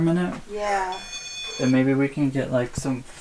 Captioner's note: beep